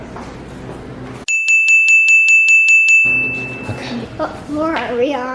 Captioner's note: bell dinging